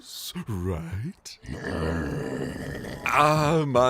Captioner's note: growls